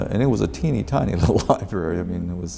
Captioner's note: laughs